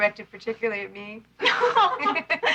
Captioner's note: laughing